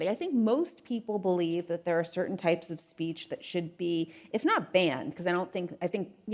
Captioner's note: none